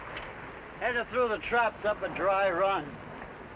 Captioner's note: none